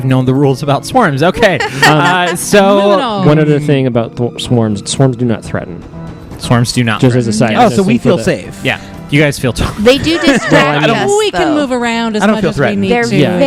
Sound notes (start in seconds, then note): 9.9 laughs